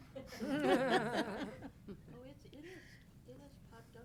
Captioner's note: laughing